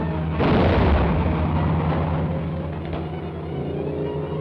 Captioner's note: plane roaring; bomb blasts; thrilling music